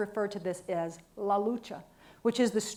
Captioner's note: speaks in a foreign language